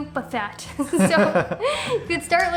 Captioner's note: laughs